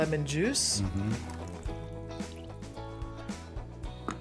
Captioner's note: dribble of liquid